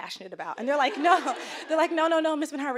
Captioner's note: audience laughing